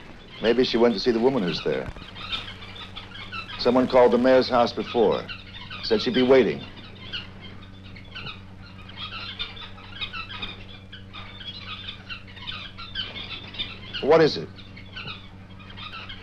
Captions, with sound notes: Maybe she went to see the woman who's there. Someone called the mayor's house before, said she'd be waiting. (Birds chirping) Well what is it?